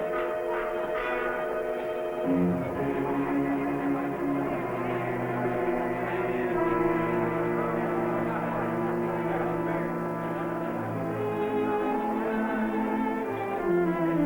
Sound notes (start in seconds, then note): 0.1 tense music; 4.3 crowd chattering